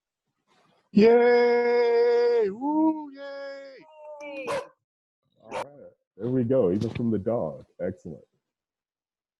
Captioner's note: dog Barks